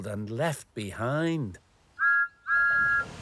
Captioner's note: whistle toots